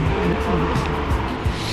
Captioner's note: wind Blowing